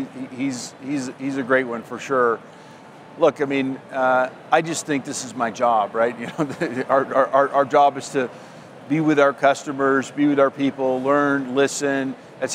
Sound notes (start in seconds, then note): 6.3 laughs